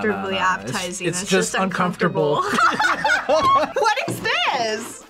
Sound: laughs

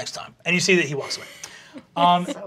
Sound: giggling

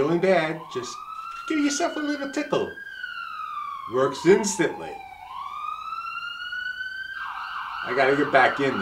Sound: sound of siren from approaching Ambulance

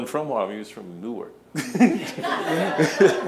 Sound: laughing

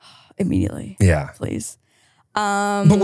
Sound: none

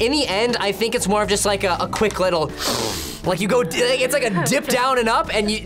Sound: sniffs

